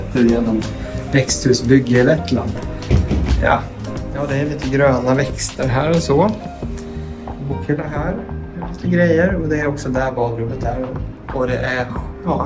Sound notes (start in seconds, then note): 1.9 knock, knock, knock